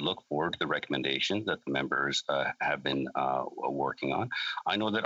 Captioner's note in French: voix de l'interprète